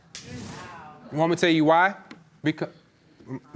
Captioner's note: audience exclaims